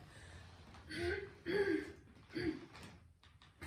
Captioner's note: clearing throat